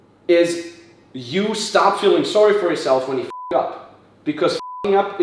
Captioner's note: beep